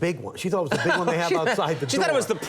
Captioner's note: Conan laughing